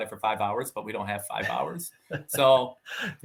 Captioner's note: laughing